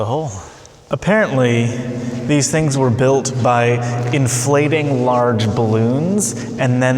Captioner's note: echoing